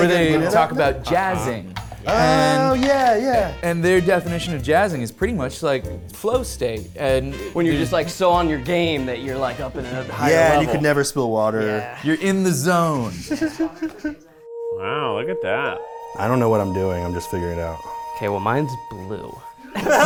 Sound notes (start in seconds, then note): 13.1 chuckling; 19.7 people laughing